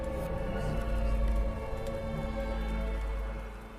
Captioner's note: tense music; tape whirring